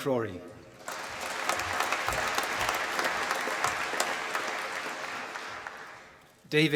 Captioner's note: applause